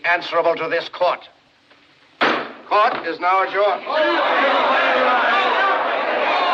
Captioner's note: clamoring Continues